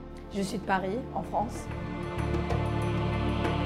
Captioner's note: speaking foreign language